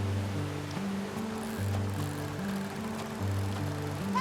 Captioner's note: reel winding